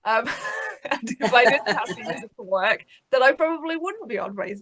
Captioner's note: all laughs